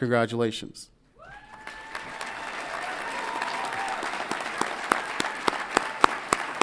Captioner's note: audience applauds and cheers